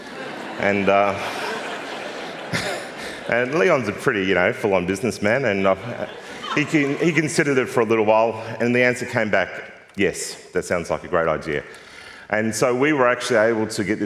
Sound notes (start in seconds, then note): 0.0 laughter; 5.8 laughter